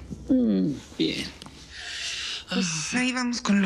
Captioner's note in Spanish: Suspiro